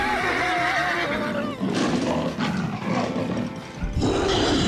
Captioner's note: screaming; growling; creature roars